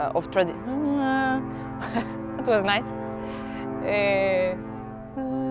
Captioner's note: ferry horns in the background